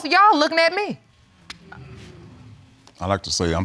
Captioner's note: audience sighing